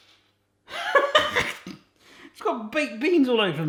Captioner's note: laughs